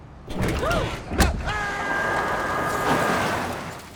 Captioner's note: clank